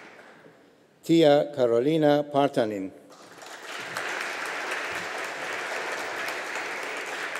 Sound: audience applauding

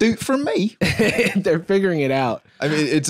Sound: laughs

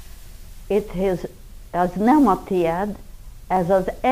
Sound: Hungarian language

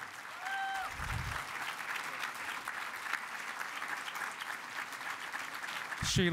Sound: cheering and Applause

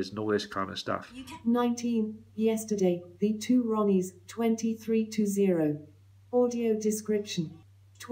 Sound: female speech synthesiser voice

